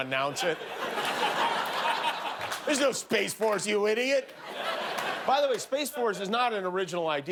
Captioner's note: laughter